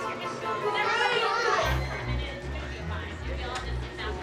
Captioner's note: all murmuring